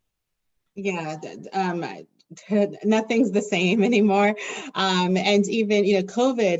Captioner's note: chuckles